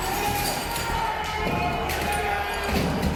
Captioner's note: shouting; glass breaking